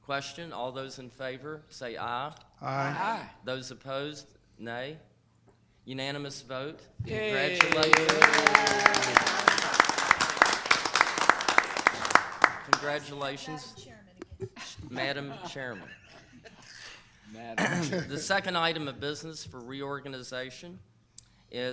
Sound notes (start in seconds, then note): 7.1 people clapping